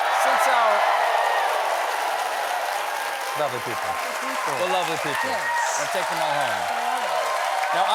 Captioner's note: cheers and applause